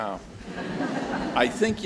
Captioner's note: audience laughs